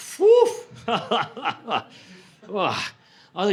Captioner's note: laughter